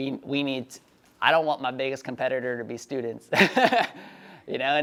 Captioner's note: laughs